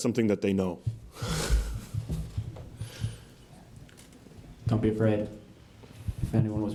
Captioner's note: laugh